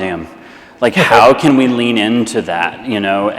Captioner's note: laughs